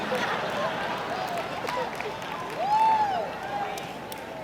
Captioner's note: audience laughs